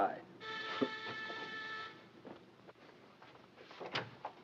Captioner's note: doorbell buzzes